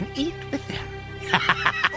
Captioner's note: laughter